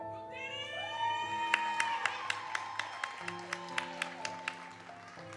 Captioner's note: audience cheers and applauds